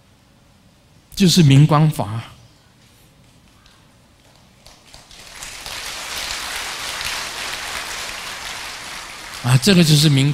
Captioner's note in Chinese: 眾鼓掌